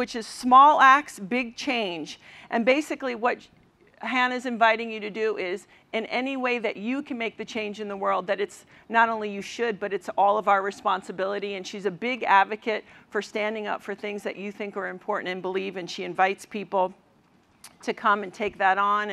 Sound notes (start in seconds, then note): none